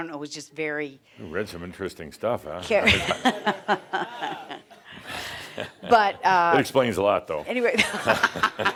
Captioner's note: she chuckles